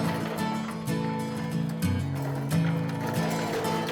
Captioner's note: cart rumbling